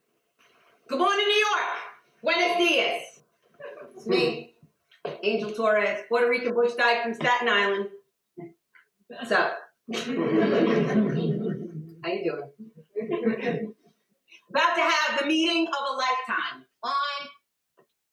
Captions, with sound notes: "Good mornin' New York. Buenos dias. It's me, Angel Torres Puerto Rican butch dyke from Staten Island. What's up. (audience laughter)How you doin'? I'm about to have the meeting of a lifetime. LINE!"